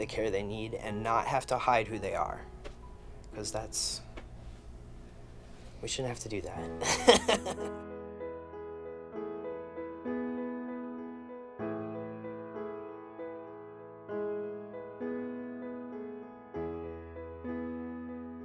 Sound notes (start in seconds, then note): 6.8 laughing